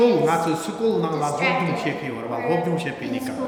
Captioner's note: speaking tibetan